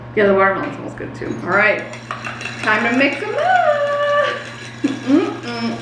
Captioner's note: glass clacking